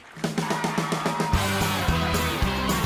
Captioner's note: crowd cheering